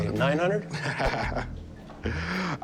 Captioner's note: laughs